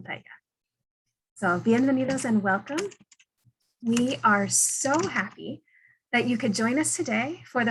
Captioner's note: in Spanish